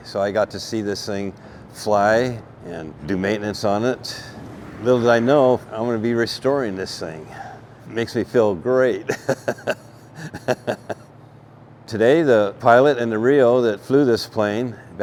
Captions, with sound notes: So I got to see this thing fly and do maintenance on it. Little did I know, I'm gonna be restoring this thing. It makes me feel great. (laughs) Today, the pilot and the RIO that flew this plane